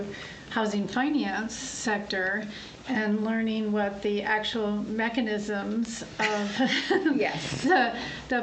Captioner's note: laughs